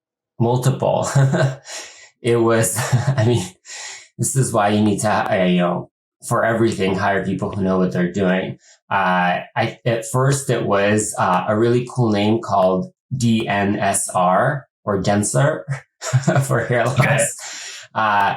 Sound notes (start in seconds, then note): 0.9 laughs; 15.6 laughs